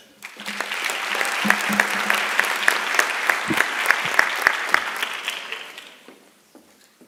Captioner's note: applause